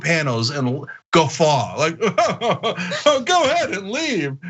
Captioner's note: laugh